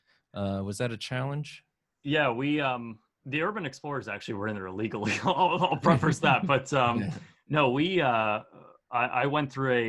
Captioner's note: laugh